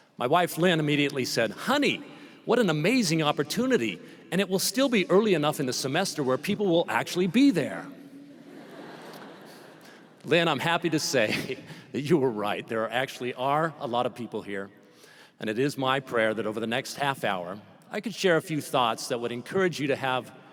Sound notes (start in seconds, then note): 8.4 laughter